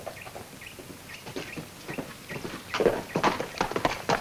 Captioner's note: bird tweets; hooves clomp